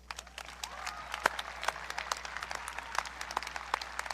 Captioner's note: audience cheering